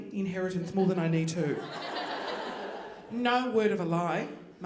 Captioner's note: audience laughing